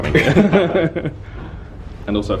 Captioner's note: they laugh